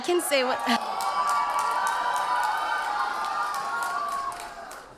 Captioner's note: audience cheers